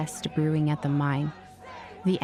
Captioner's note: protesters chanting